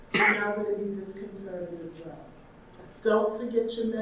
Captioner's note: audience member coughs